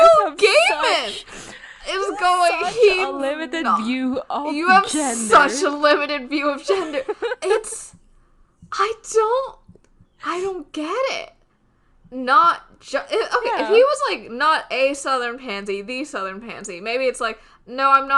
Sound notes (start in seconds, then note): 9.3 laughs